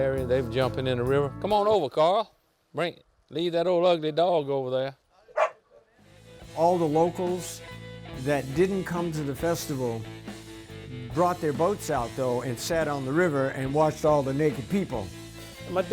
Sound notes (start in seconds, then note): 5.3 dog barks